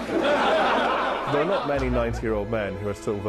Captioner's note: laughing; voiceover